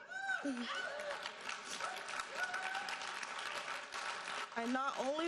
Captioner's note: audience cheering and applauding